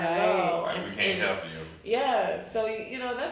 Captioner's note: speaking faintly